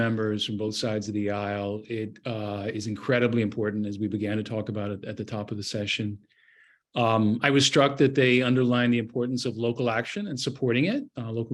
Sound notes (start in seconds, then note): none